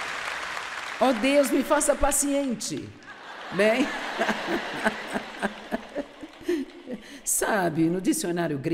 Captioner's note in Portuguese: risos